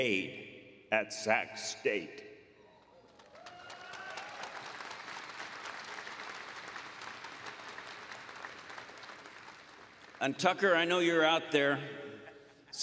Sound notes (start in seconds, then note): 3.0 applause